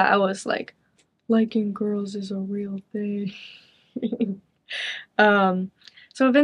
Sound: chuckles

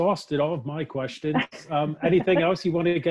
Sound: laughing

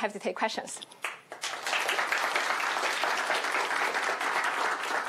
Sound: applause

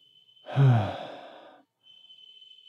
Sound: sigh

